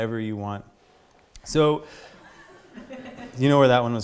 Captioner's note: audience laughter